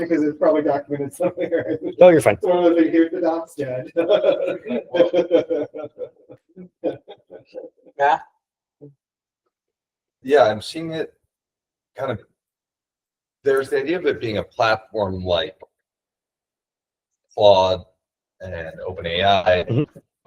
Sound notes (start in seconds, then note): 0.6 laughing; 3.8 colleague laughing